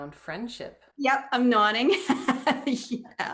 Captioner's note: laugh